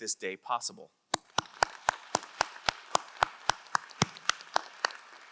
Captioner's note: crowd applauding